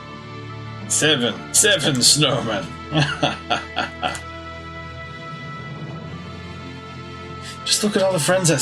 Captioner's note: laughs